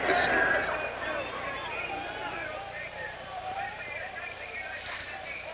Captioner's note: john turns volume down -- rioting sounds continue as background